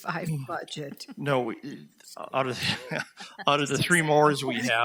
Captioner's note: all laugh